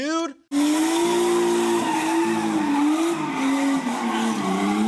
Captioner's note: engine whirring